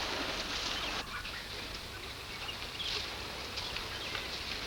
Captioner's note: birds chirp